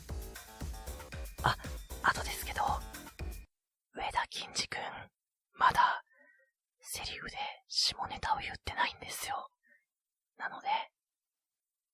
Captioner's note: whispered